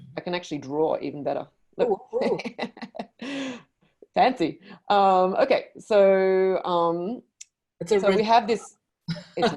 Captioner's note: laughs